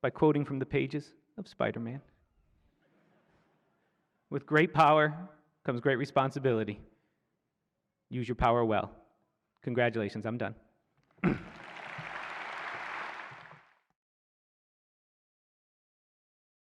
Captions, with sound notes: by quoting from the pages of Spiderman. (laughter) "With great power comes great responsibility." Use your power well. Congratulations, I'm done. (applause)